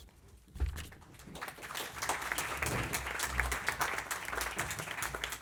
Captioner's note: applause